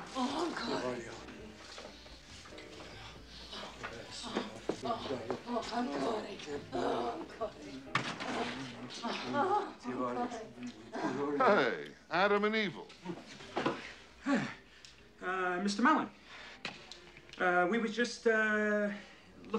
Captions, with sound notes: (MAN AND VANESSA SPEAKING ITALIAN) (VANESSA MOANING) Hey! Adam and evil. Uh, Mr. Melon. Uh, we were just, uh,